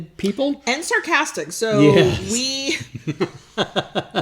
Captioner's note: laughs